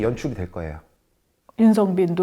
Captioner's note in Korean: 정적